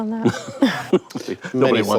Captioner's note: laughs